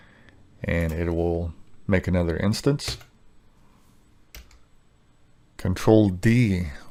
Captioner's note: keyboard clacking